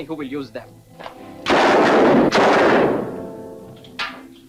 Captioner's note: gun firing